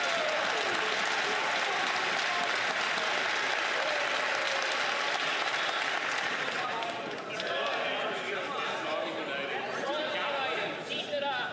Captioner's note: some Applause